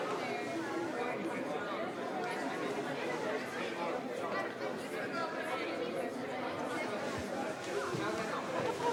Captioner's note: people talking